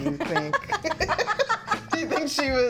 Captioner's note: both laughing